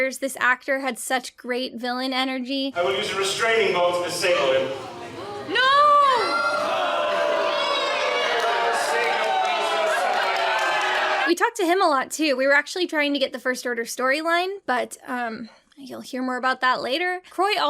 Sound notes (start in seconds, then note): 7.5 crowd jeering